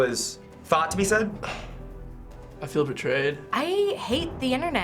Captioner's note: scoffs